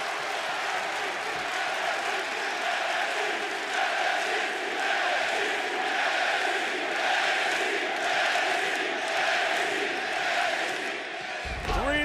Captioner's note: fans chanting nxt